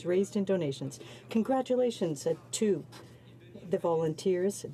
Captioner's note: speaking French